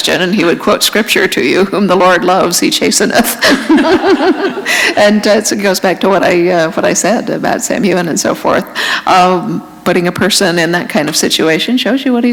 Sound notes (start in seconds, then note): 3.3 laughter